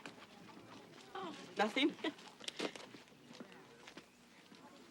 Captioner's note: Olaf chuckles